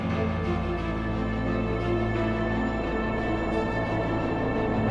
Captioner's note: ship engine humming